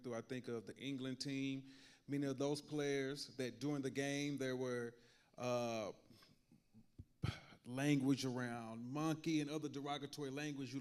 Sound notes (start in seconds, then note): 7.2 sighs